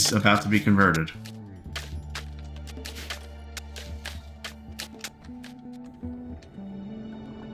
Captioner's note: typing